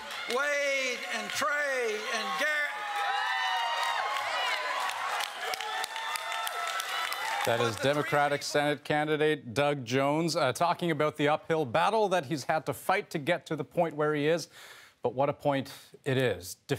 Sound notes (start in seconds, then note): 6.7 cheers and applause